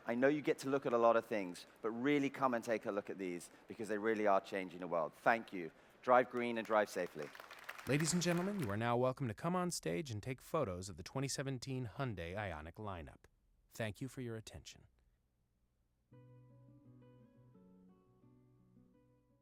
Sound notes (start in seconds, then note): 6.0 applause; 16.1 soft guitar music